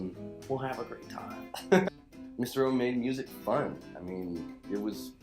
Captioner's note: laughs